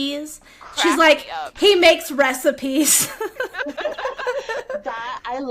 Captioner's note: laughter